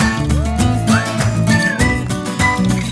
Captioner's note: everyone clapping